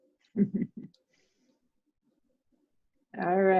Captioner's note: chuckling softly